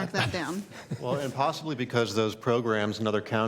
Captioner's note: laughter